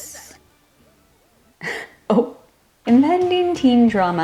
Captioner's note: choke sound; cough-laugh